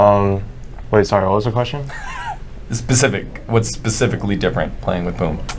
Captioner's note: laughs